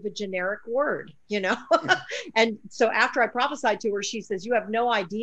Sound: laughs

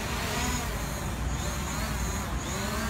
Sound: buzzing

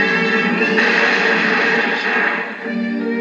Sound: crash

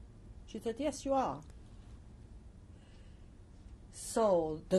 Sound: pauses for 3 seconds

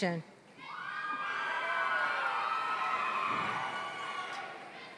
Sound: applause

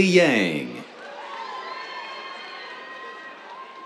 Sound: cheers

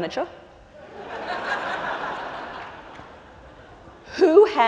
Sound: laughter

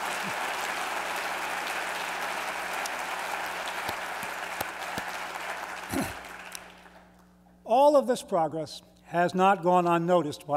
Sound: applause

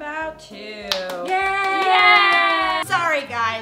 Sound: claps

